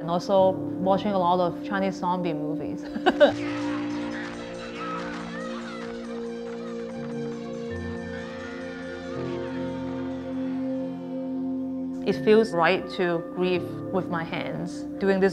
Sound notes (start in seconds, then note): 2.8 laughs; 5.0 suspenseful music